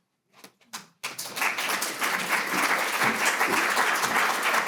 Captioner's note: audience applauding